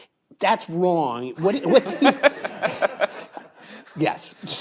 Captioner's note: all laughing